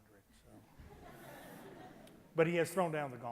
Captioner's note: loud laughter